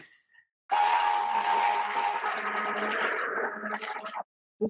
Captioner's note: blendy noises, but lowered for your convience